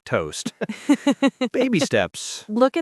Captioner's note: laughs